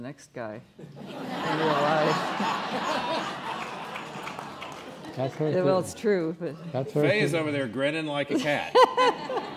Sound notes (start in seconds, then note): 3.0 laughing